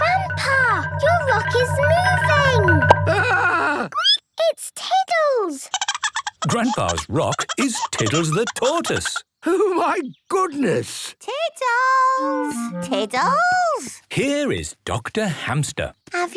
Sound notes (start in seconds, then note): 5.7 Tiddles giggling; 5.8 squeaking